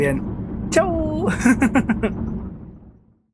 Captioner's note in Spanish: risas